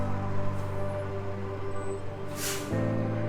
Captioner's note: RV engine roaring